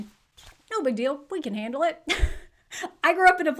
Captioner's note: giggles